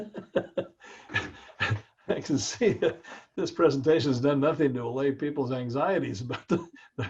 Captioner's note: laugh